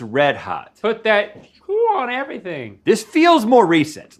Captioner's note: Link vocalizing